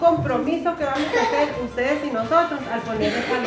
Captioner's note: speaking spanish